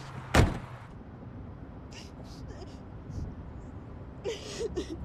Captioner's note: colee crying